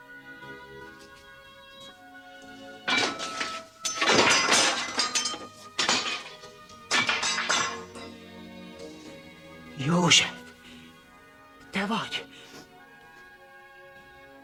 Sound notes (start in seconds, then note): 0.7 whispering; 6.0 spears clattering